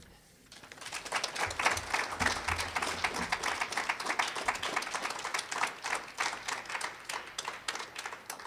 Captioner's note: applause